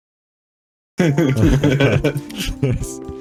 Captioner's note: still laughing